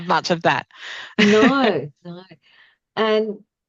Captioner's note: laughs